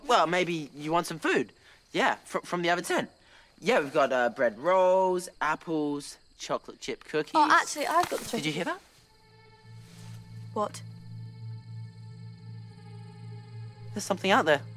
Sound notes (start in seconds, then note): 3.1 stammers